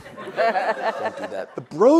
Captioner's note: audience laughs